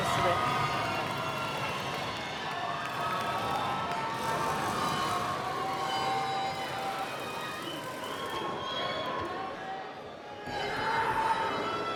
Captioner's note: cheers and Applause